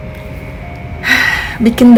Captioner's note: sigh